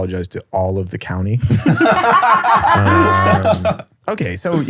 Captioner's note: all laughing